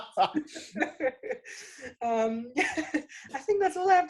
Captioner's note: laughing